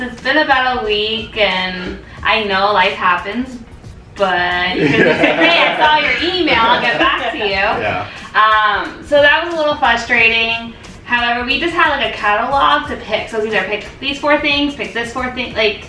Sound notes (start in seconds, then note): 4.7 laughter